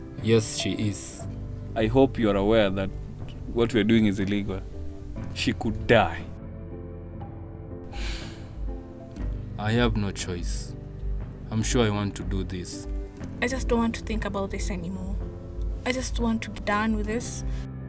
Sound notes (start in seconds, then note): 7.9 sighs